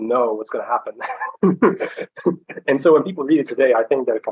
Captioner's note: laughs